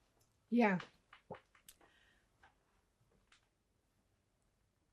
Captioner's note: pauses 12 seconds